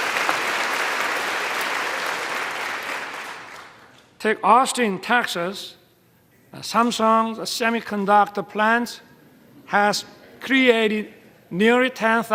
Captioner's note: applause